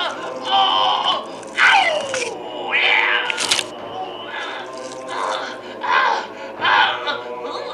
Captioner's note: squishes/screams; howls; squish